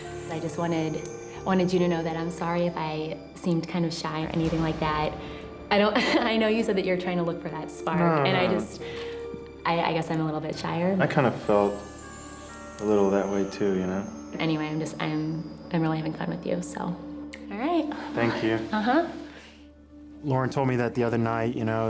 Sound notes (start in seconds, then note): 5.4 laughs